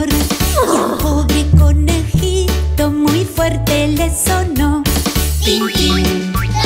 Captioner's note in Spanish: Relincho